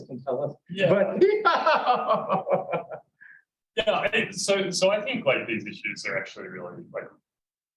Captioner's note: laughter